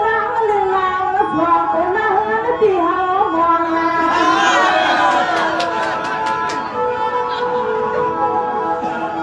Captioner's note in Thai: ปรบมือ